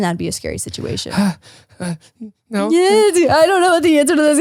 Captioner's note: whimpering